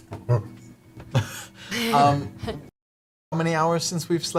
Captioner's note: gorilla noise